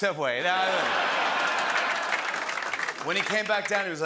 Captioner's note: laughter